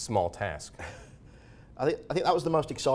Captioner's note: chuckles